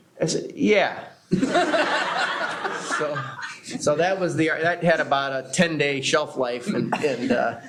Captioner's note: laughter